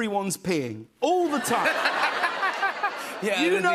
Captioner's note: laughter